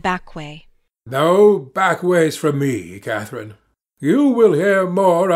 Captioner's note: raising his voice